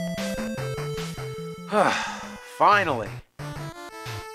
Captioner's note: sighs